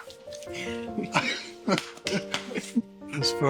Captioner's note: laughs